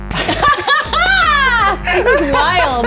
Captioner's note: kick drums; laughing